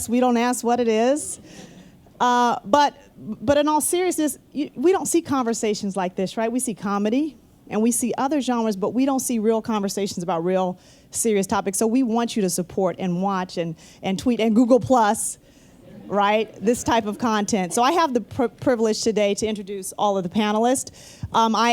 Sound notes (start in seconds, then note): 15.8 laughter